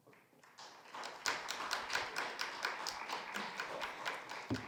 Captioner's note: audience applauds